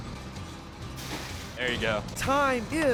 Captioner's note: splash